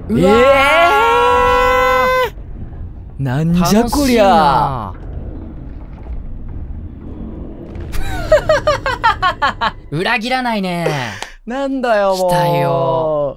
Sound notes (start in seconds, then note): 8.0 laughing